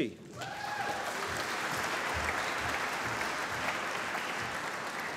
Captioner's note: applause